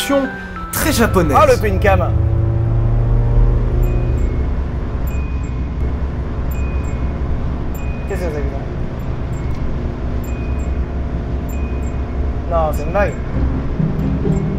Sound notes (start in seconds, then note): 5.0 speed alarm; 8.7 speed alarm continues